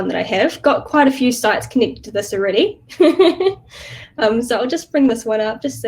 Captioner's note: chuckles